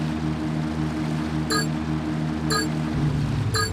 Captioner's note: plane engine roaring; plane beeping